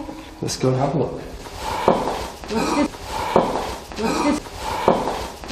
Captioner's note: breath exhaling